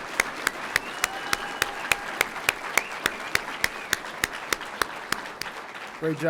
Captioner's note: audience cheering; audience applauding